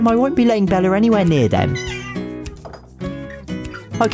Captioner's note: Bella meows